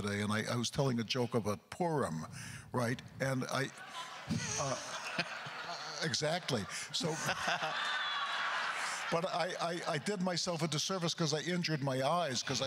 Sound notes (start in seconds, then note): 3.5 crowd laughter; 7.3 more laughter